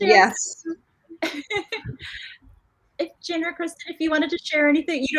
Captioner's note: laughs